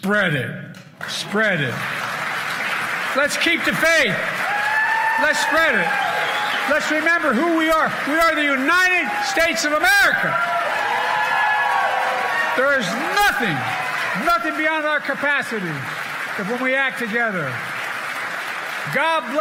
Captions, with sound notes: I was a kid. My grandmother would yell no, Joey, spread it, spread it. Let's keep the faith. Let's spread it. Let's remember who we are. We are the United States of America. [ Cheers and applause ] >> There is nothing nothing